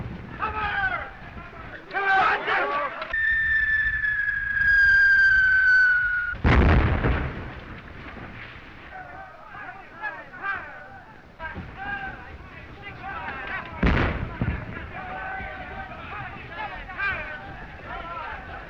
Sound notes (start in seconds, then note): 1.8 all exclaim; 3.1 bomb whistling